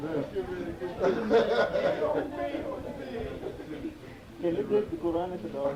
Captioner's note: laughing; speaking in foreign language